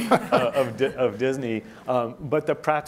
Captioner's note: laughing